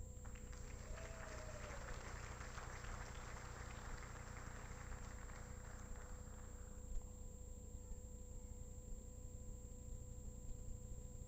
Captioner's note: applaus